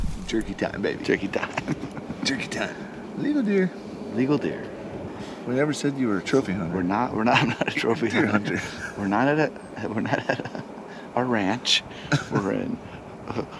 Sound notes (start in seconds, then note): 10.1 laughingly